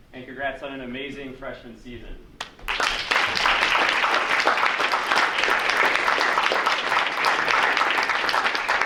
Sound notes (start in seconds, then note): 2.4 group applauding